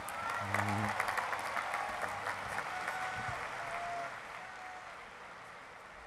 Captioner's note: applause